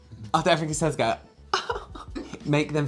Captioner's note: weird Mouth Laugh